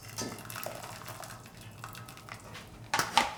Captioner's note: water dripping